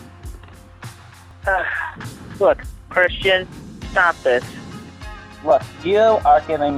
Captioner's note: sigh